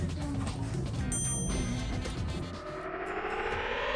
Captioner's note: bell dings